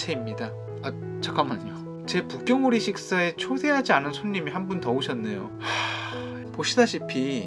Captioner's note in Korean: 한숨